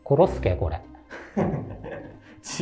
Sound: laughing

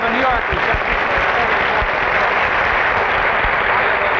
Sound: loud applause

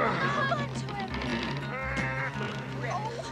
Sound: grunting

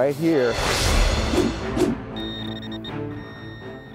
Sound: beeping

